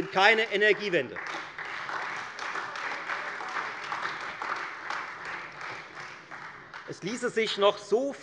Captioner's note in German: Beifall Freie Demokraten und vereinzelt AfD